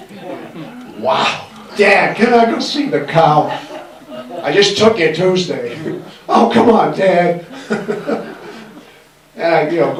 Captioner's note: laughs